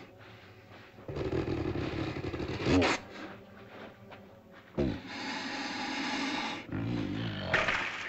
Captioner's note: ominous music; dinosaur grumbles